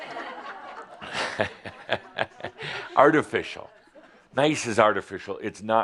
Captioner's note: some chuckles